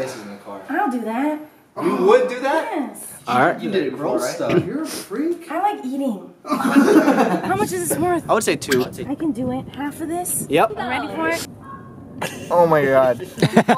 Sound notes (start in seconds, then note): 6.4 laughter; 13.2 laughter